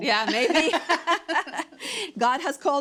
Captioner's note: both laugh